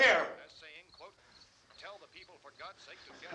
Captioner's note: man on radio continues